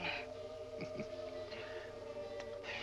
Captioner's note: chuckling